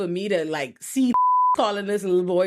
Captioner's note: beep